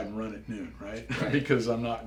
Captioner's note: laugh